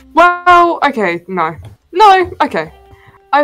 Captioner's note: none